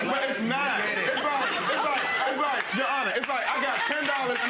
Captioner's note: audience laughing and clapping